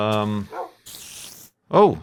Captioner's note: spider noises